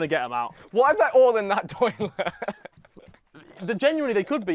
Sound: laughs

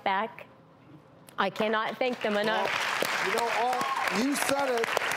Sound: applause and cheering

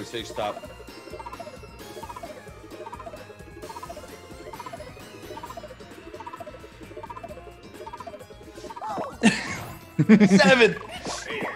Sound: laugh

